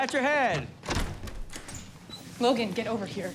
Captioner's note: door opens